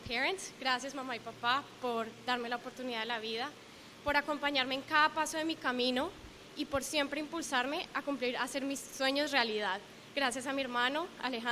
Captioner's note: speaking spanish